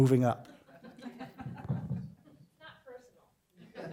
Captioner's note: laughter; laughter